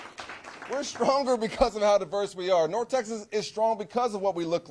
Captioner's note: cheers